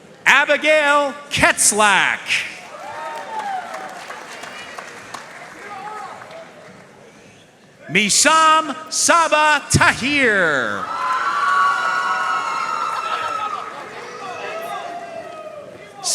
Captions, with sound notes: Abigail Ketzlak. (audience cheering and applauding) Mesam Saba Tahir. (audience cheering and applauding)